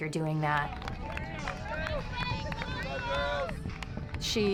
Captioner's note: crowd cheering